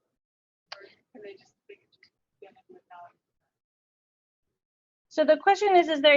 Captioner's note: audio drops